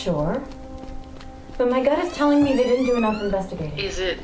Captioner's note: recording comes alive with door creak